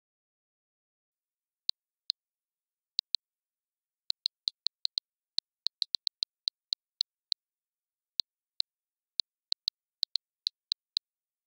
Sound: sound of smartphone

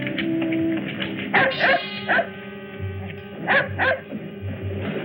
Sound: dog barking

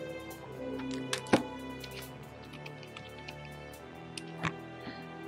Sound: typing

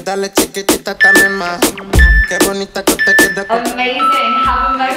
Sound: timer beeping

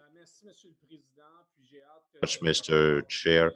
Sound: speaking in French

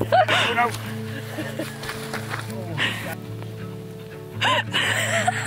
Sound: laughing

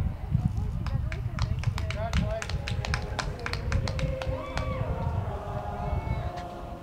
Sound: crowd clapping; choral music

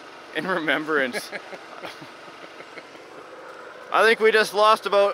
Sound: laughs

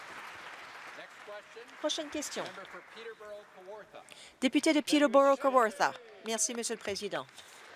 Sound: applause

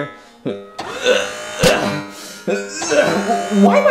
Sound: Mario groaning; metal whirring

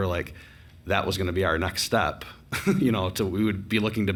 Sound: chuckles

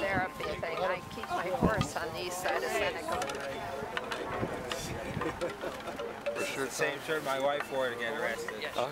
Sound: truck rattles and hums

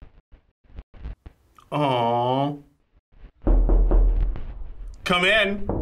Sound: knocking; knocking continues

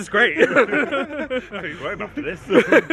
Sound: friends laugh

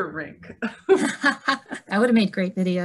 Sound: laughing

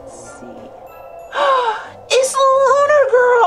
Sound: gasps

